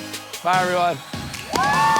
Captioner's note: claps